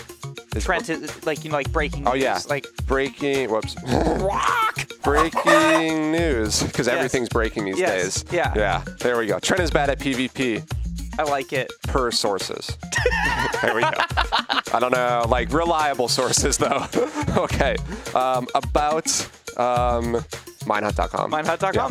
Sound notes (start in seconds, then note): 3.8 squawks; 3.8 laughs; 5.0 chicken squawk; 12.9 laughter